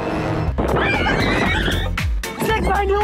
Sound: people screaming

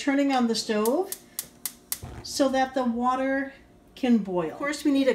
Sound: gas stove clicks on and lights

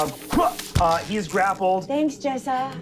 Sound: whipping

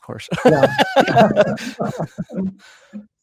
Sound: laughs

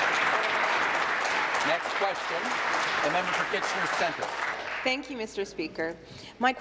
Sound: applause

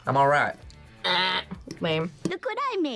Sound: imitates buzzer

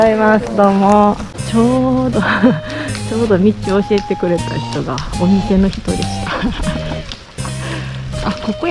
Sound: laughs

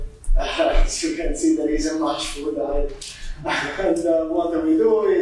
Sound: chuckles

